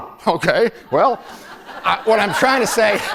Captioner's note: laughter